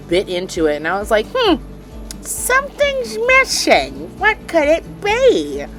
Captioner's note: in a shrill, comical voice